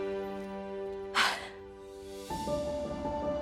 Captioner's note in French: halètements